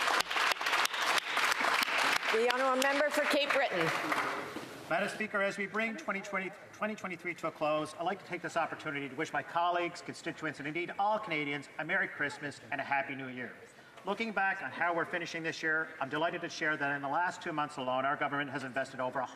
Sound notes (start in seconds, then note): 4.6 some Applause